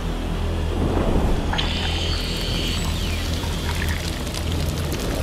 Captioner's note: flare whooshing; creature screeching; fire crackling